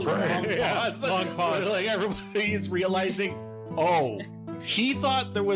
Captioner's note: laughing